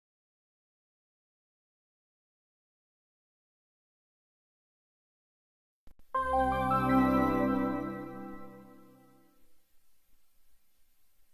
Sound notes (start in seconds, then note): 0.9 silence; 6.1 digital piano music playing